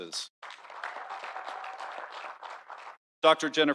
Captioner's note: audience applauding